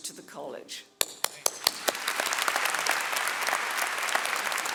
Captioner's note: audience applauding